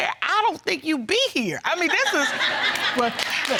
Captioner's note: audience laughing